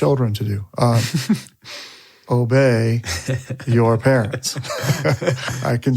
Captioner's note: laughs; chuckles